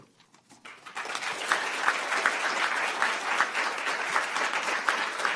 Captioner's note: applause